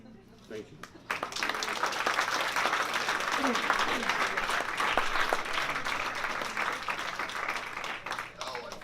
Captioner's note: applause